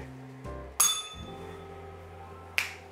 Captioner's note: bell rings